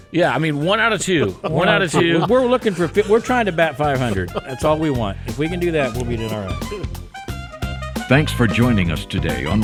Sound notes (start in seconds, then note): 3.0 all laugh; 5.6 upbeat jazz music